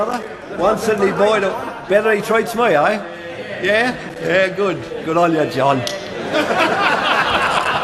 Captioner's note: clicks mouth